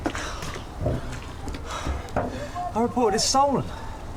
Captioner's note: heavy breathing